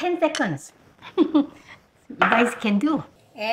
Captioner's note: laughs